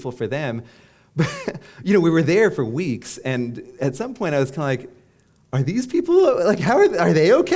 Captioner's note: chuckle